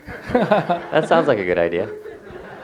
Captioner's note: laughs